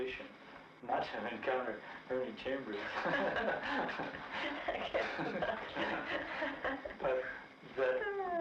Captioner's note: both laughing; laughs